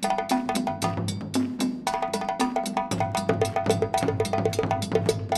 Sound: crowd rhythmically clapping

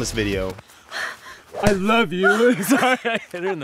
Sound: cracks up

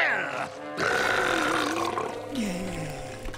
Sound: burps

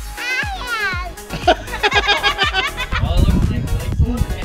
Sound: laughter

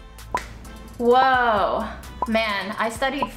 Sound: timer ticks

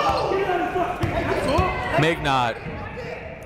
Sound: shouting

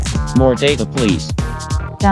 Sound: female robot voice; male robot voice

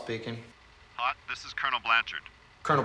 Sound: on phone

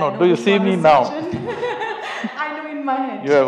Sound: laughs

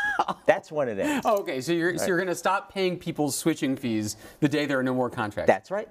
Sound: laugh

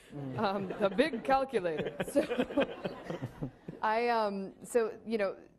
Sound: laughing

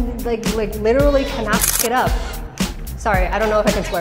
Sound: camera clicking

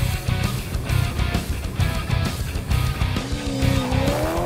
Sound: car engine roaring

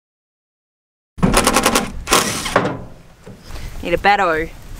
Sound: electric Drill Sounds

